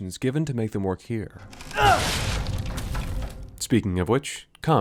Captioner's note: Step breaks and Ethan grunts